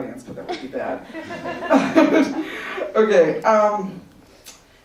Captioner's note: laughter